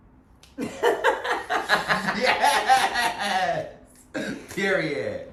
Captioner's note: group laughing